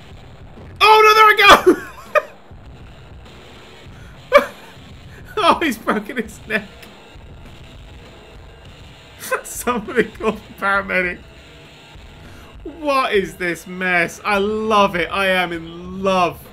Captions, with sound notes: Oh, no, there we go! (laughing) Oh, he's broken his neck...! (while laughing) Somebody call the paramedic! What is this mess? I love it! I am in love!